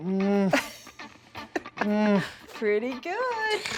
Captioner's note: laughing